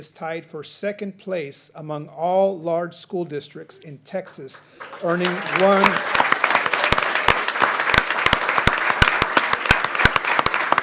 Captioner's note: applause